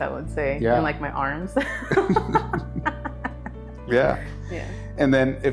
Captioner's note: laughs